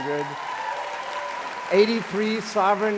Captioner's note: applause